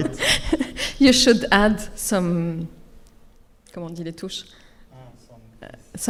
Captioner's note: speaks French